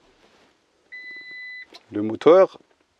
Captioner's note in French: Bip d'alarme